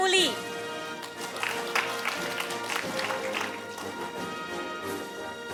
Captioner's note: audience applauding; orchestral music